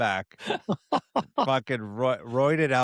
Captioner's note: laughs